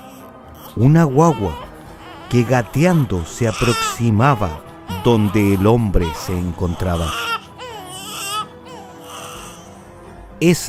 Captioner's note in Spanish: lloros